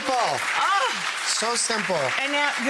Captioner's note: audience clapping